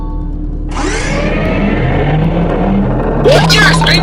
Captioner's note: Basement Gate opens